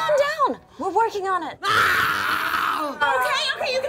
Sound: growling

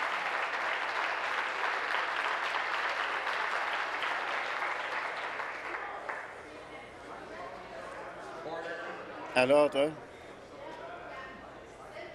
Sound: applause

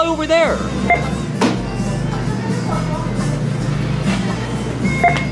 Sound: machine beeping

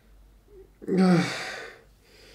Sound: groan

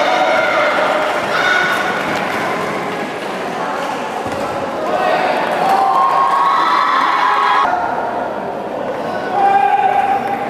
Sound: applause

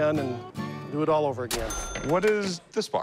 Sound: cash register chime

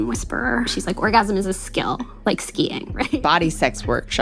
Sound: laughs

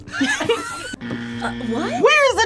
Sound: laughing; buzzer buzzing

